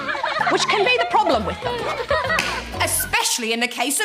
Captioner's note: Fish laugh